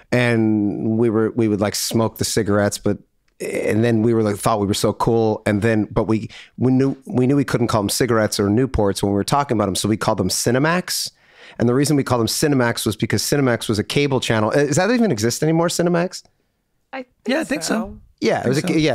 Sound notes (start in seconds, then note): none